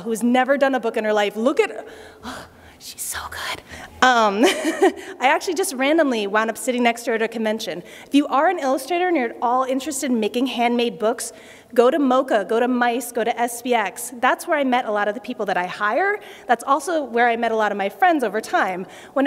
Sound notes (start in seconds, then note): 4.4 laughter